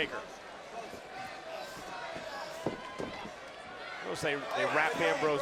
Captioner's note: audience chanting